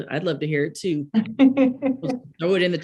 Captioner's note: laughs